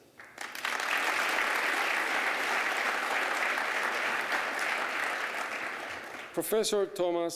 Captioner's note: applause